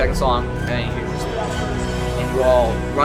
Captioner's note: teleop bell